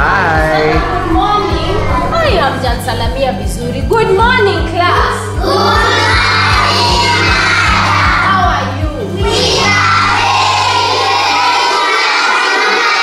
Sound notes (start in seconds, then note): 1.8 teacher speaking foreign language